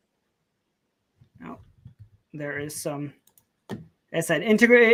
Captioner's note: stammering